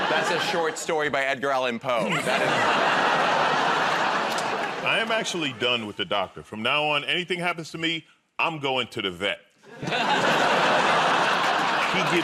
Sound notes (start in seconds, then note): 2.0 laughter; 9.6 laughter